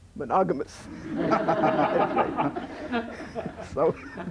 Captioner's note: laughter